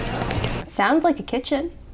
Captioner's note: footsteps; pans sizzle; spatula clangs against pan; scale clatters